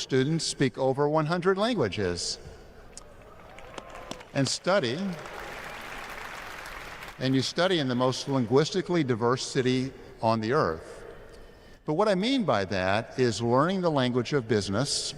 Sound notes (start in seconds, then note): 4.9 applause